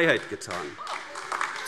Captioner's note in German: Beifall AfD